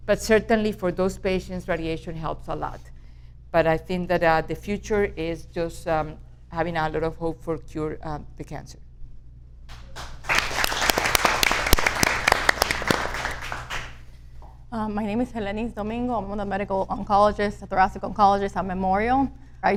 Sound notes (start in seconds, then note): 9.7 audience applauds